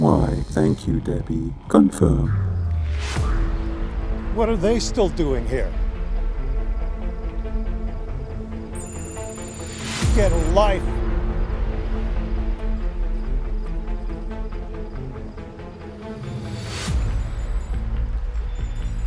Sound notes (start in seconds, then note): 9.2 electronic beeping